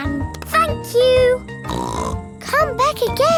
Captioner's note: snorts